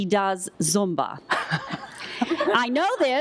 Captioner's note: laughter